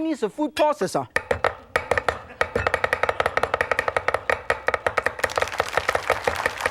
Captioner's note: audience laughs; knives tapping; audience claps